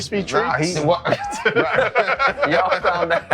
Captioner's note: laughing